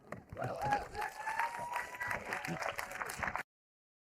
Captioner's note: audience applauding